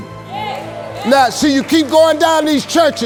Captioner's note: audience cheers